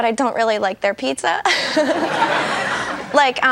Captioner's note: laughs